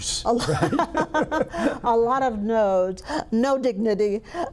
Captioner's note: laughter